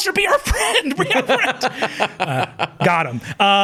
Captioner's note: chuckling; laughs